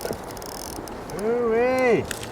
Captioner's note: splash